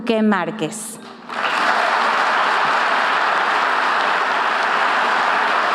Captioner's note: audience applauding